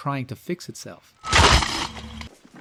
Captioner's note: crunch